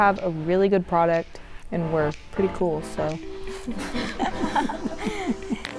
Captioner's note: team chuckles